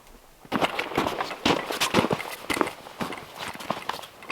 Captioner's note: footsteps crunching